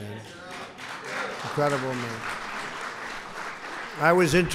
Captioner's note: applause